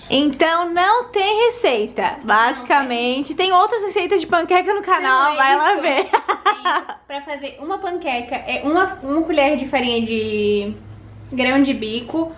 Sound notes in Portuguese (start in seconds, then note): 5.9 Risos